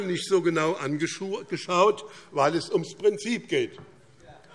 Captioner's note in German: none